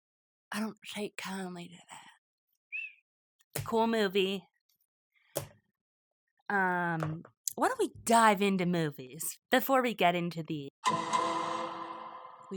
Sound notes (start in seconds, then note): 2.7 airy whistle